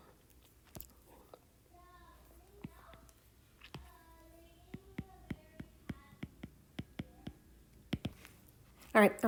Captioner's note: background Talking and Writing Sounds